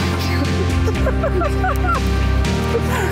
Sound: laughing

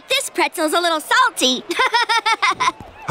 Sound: laughing

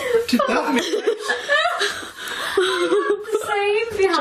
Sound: laughing

